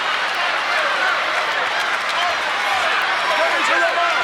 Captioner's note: crowd chattering